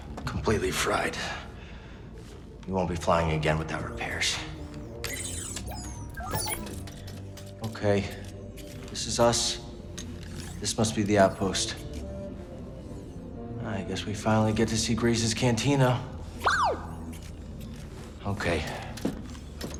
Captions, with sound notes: CAL Completely fried. CAL We won't be flying again without repairs. CAL Okay. This is us. This must be the outpost. CAL I guess we finally get to see Greez's cantina. (EXCITED BD CHIRP) CAL Okay...